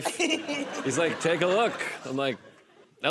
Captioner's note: laughter